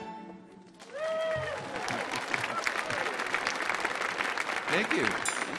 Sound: audience applauding

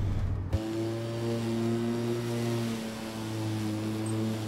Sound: lawnmower whirring

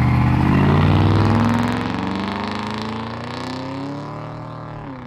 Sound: engine revving

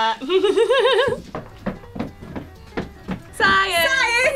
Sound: laughs; footsteps thumping; laughs and claps

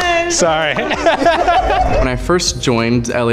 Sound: everyone laughs

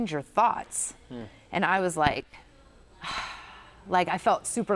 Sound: sighs

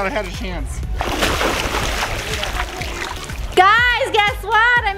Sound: splash

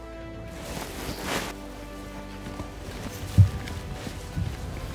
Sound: fabric rustling

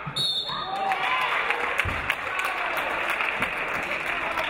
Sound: referee blows whistle

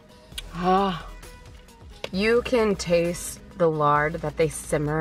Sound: groans

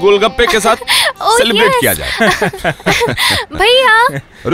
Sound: laughs

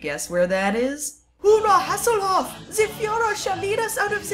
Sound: fake German accent

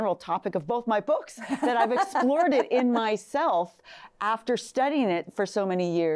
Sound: laughing

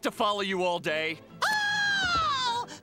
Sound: screaming

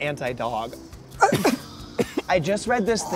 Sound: man coughs

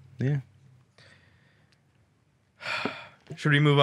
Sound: sighs

